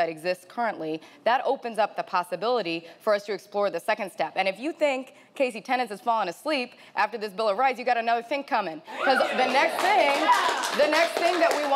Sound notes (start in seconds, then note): 9.0 audience cheering